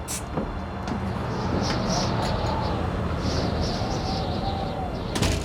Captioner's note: wind whistling